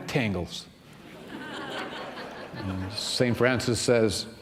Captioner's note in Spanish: risas